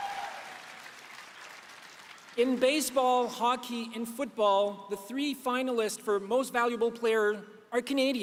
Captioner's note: applause